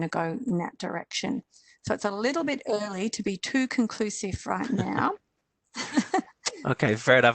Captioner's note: laughs